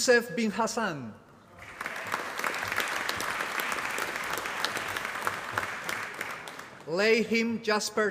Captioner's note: applause